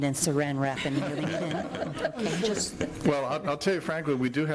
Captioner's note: chuckling